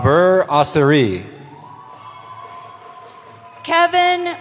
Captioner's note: cheering